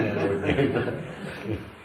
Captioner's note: laughter